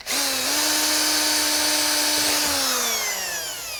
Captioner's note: drill whirring